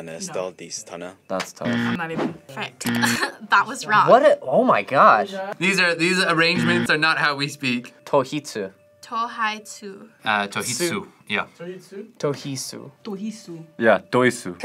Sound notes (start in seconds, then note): 2.9 laughs